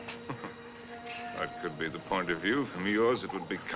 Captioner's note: chuckles